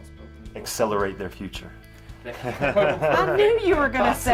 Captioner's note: laugh